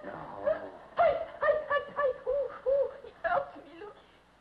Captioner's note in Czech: Sténání